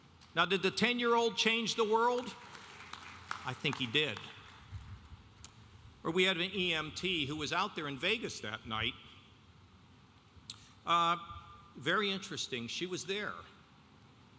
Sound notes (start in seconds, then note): 2.1 audience applauding